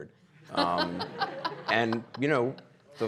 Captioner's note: audience laughing